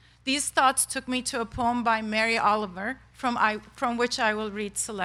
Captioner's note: none